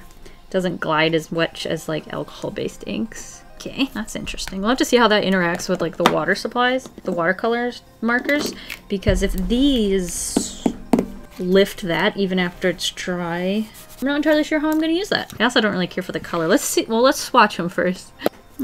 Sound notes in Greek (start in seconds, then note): 9.0 Χτύπημα